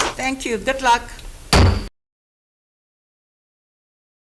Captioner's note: gavel pounds